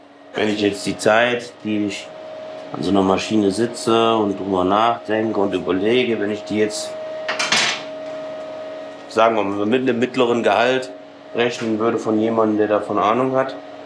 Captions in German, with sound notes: Wenn ich die Zeit, die ich an so einer Maschine sitze und drüber nachdenke und überlege. Wenn ich die jetzt ... (Metallischer Laut) Sagen wir, mit einem mittleren Gehalt rechnen würde, von jemandem, der davon Ahnung hat ...